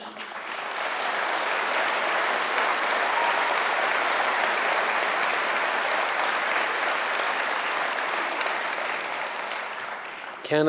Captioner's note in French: Applaudissements